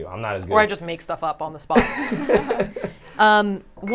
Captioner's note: all laughing